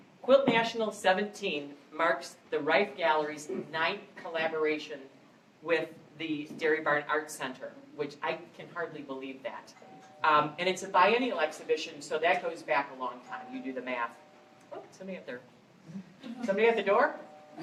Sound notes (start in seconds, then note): 13.2 doorbell rings